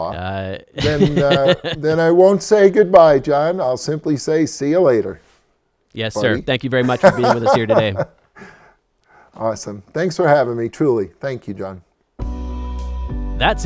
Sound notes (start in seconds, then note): 6.8 laughs; 12.2 bright music